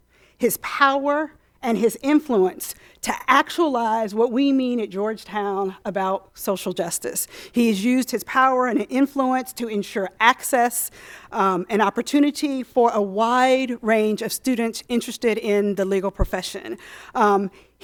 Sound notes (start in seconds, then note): none